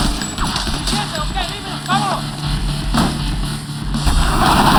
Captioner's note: shouting in Spanish